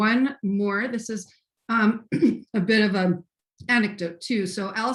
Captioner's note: clears throat